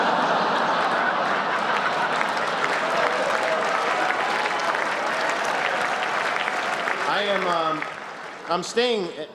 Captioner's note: laughter, extra applause